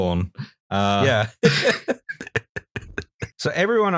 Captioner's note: laughter